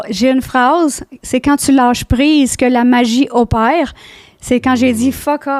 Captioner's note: in french